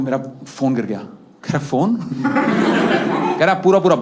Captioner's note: He laughs